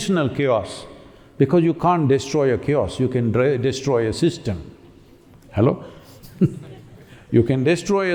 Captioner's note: laughs